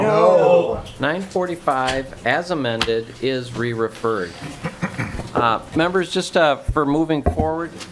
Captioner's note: chorus of ayes